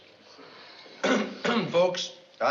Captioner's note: coughing